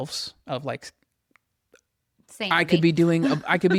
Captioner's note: laughs